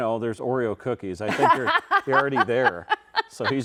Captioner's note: laughing